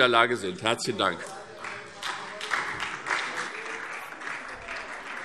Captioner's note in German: Beifall SPD